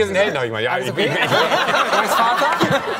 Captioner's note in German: Gelächter